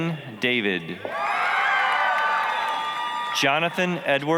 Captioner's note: applause, cheering